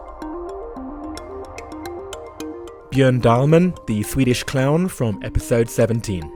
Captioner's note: voiceover